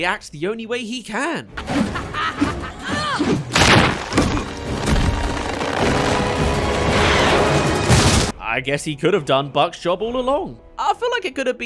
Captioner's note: swing